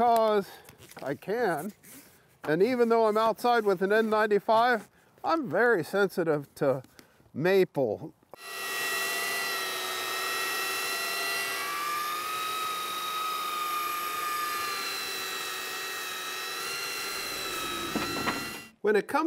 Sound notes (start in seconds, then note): 8.3 sander buzzing; 17.4 wood whooshing